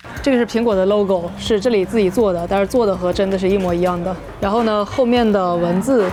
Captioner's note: speaking foreign language